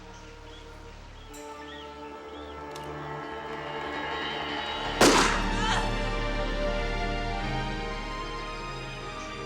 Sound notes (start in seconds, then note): 5.3 woman groaning